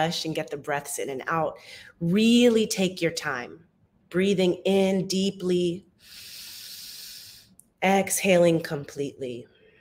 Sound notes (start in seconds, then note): 6.0 inhales deeply